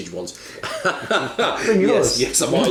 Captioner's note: laughs